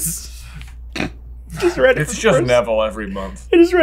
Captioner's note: snorts